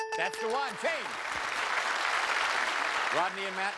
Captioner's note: applause